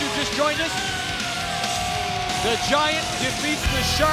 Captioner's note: audience jeers